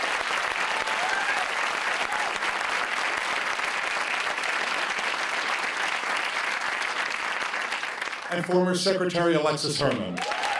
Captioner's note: cheers and applause